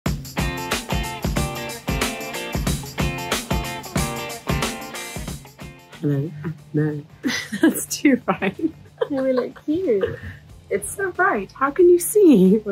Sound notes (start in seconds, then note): 0.1 upbeat music; 7.2 chuckling